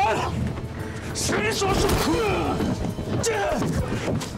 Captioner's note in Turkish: Kafa atma sesi